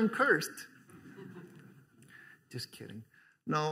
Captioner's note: laughter